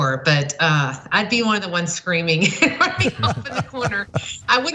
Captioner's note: laugh